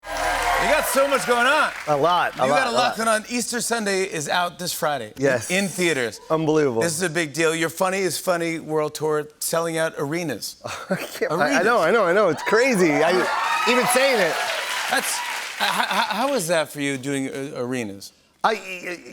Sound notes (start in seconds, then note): 12.3 cheers and applause